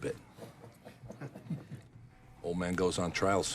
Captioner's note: men chuckling